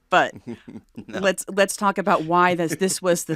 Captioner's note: chuckles